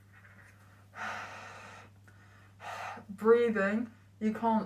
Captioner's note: breathing noises